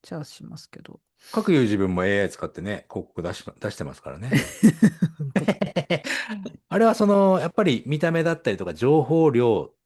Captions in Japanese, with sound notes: じゃあしますけど、 各自分もAI 使ってね、広告出し出してますからね。 [笑い] あれはそのやっぱり見た目だったりとか情報量っていうのがうまいこと載せてくれる